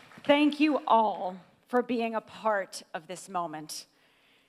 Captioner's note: applause